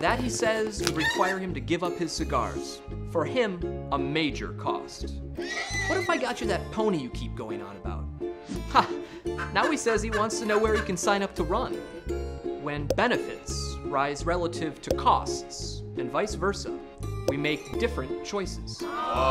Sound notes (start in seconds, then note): 5.4 horse neighs